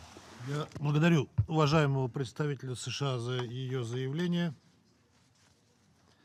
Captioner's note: in Russian